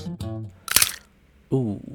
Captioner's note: snap